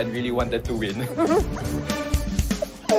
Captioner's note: laughs, exclaims; mumbles